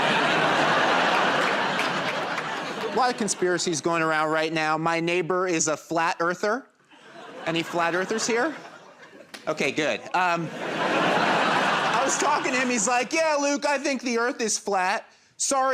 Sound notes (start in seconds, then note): 0.0 laughter and applause; 6.9 laughter